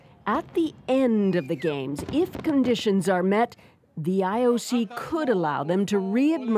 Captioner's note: cheers and Applause